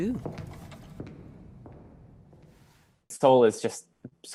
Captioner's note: high heels walking away